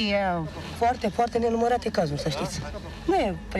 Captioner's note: speaking Romanian